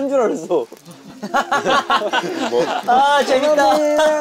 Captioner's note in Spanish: Jajaja